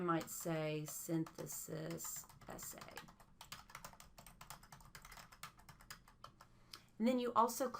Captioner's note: typing; more typing